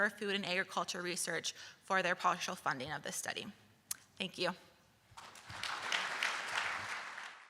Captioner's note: round of applause from audience